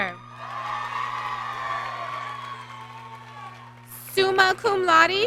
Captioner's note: applause